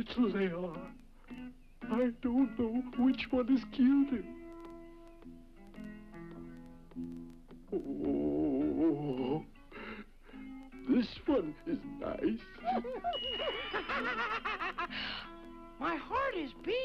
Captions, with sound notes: I don't know which one is cuter. Oh! This one is nice. (nose squeaks) - (laughs) My heart is beating!